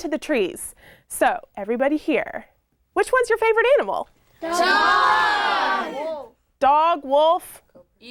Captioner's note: kids yell